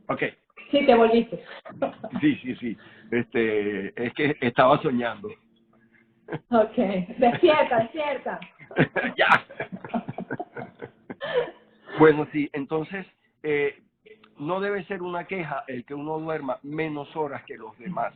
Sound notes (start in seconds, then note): 5.0 laughs